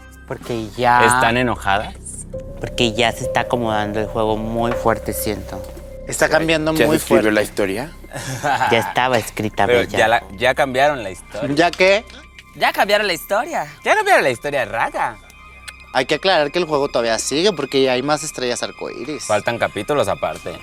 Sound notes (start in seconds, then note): 12.5 in her accent